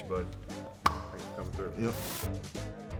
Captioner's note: claps; funky music